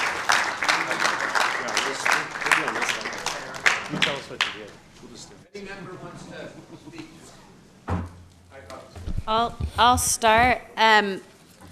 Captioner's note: applause